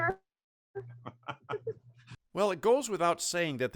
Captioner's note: laughing loudly